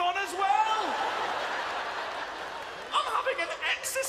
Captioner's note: laughter